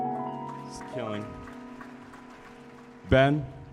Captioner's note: audience applauding